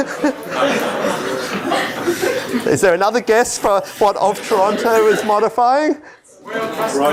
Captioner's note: laughter